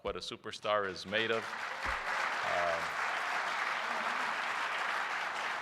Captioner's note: applause